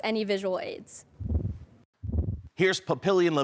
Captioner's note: whoosh